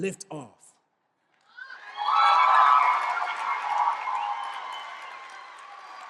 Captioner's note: cheers and applause